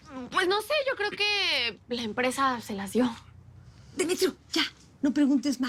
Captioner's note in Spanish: none